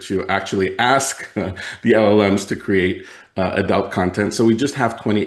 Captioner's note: laughs